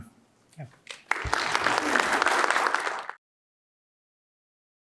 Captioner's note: applause